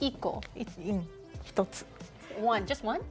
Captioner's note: speaking Japanese